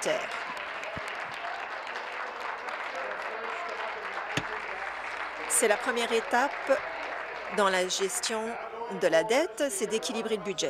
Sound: applause

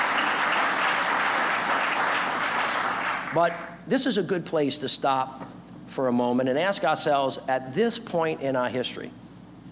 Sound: applause

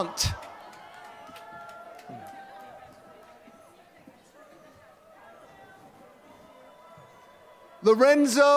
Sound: applause

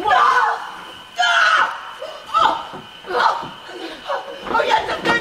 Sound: Claudius cries in pain

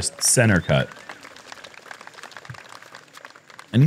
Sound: applause

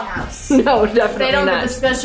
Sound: laughs

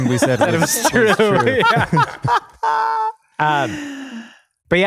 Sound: happily laughing

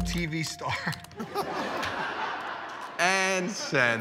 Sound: laughter

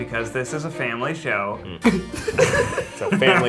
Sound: laughs

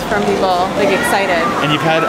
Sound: shoppers murmuring

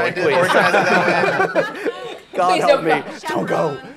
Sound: laughing

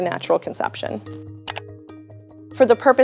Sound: slide clicks

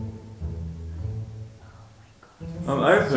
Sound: whispers

